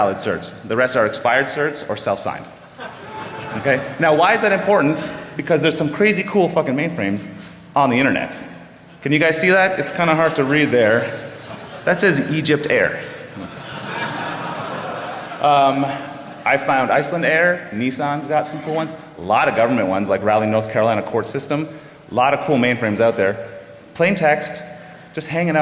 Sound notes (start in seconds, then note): 13.1 laughter